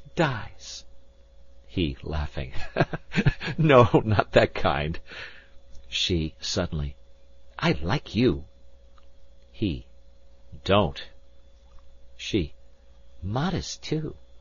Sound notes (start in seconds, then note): 2.5 laughing